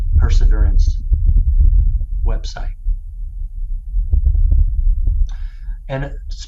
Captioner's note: Low bass sound of wind on Mars